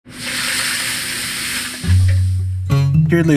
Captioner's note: pan sizzles; mellow music